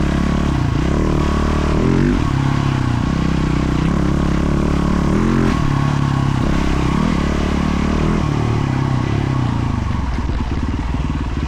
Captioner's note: engine revving